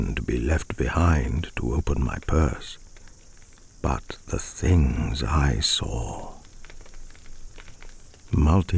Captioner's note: fire cracking and night insect buzzing